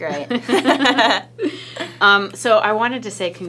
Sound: both laughing

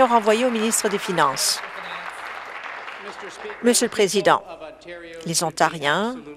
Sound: applause

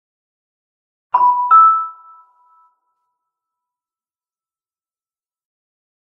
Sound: sound of doorbell

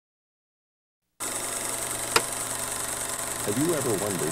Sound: projector clicking

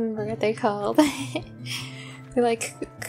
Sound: embarrassed laughter

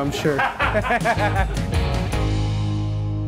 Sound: laughing

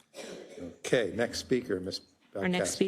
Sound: cough

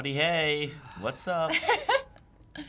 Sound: laughs

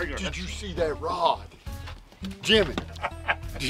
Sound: laughing

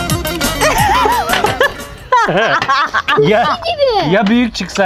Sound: laughter

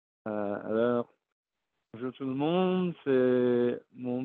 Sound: speaking french

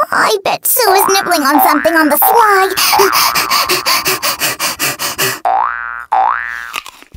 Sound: worried; panting

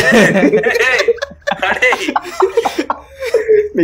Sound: sniggers in the background

